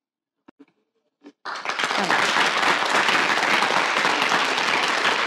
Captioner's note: audience applauding